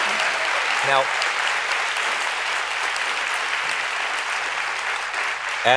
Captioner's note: applause